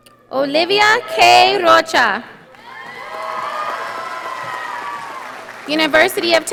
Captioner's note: audience applauding